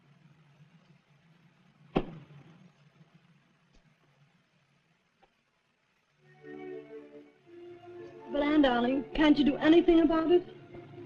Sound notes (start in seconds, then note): 1.9 kick